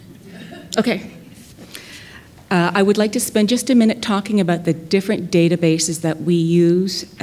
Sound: laughter

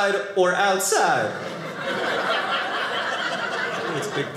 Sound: audience laughing

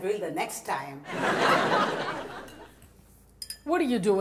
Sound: audience laughs

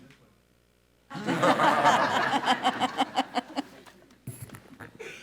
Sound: all laughing

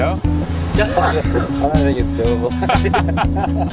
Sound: both laugh

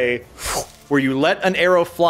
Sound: none

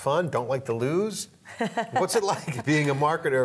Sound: laughs

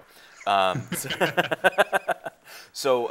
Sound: laughing

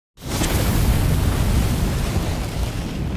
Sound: flame bursting

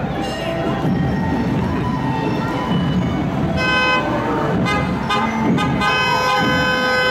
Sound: various car horns sounding

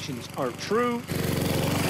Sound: nat pop mowing

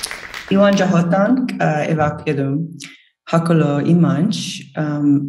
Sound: speaks in foreign language

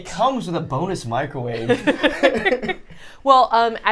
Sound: laughing

